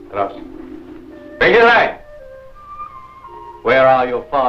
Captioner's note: speaking in foreign language